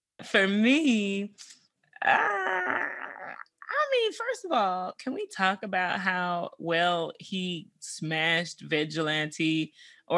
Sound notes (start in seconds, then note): none